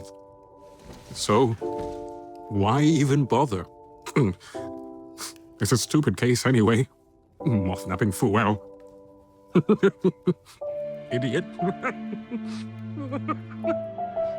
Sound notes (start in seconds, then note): 3.6 Sherblock snorts; 11.7 Sherblock's chuckles turn to sobbing; 14.1 piano continues